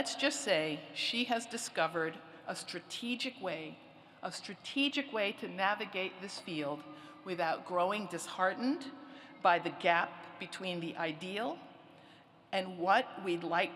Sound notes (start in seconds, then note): none